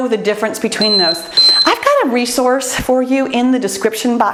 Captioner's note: timer beeps